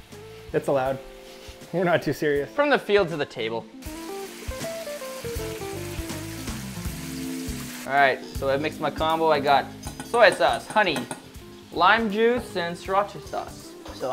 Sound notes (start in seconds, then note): 4.3 meat simmering; 6.4 light jazz music